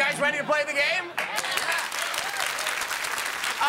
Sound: cheers and applause

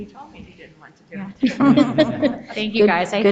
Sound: people chuckle

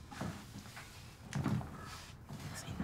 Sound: chair squeaks

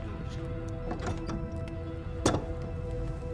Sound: door opens and closes

